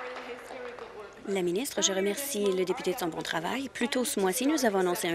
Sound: applause

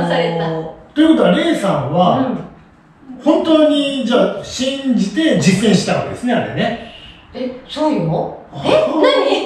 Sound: laughs

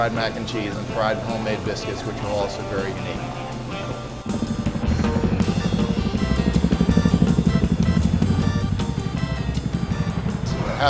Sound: helicopter sound

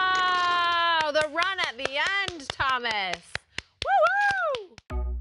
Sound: applause

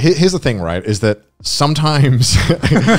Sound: laughing lightly

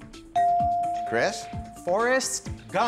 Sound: bell dings

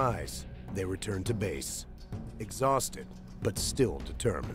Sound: voiceover

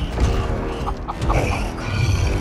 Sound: chicken Clucks

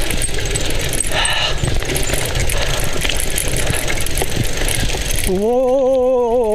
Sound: cycle Riding Sound

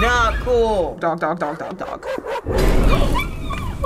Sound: dogs barking; gasping

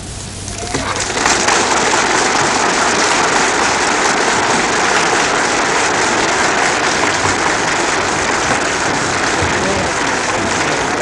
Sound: applause

